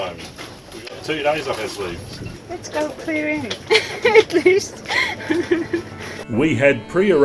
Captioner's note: laughs